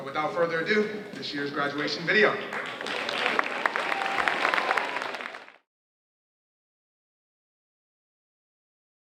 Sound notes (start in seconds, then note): 2.4 audience cheering and applauding